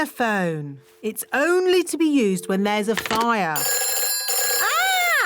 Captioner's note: phone rings